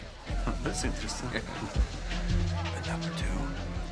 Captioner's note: chuckles